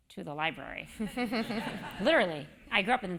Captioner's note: laugh